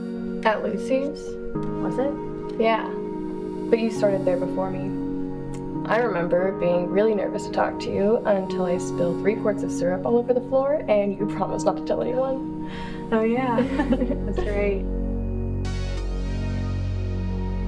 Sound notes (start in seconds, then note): 13.1 laughs; 15.7 electronic music